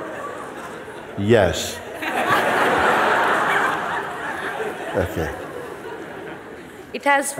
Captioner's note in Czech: smích; smích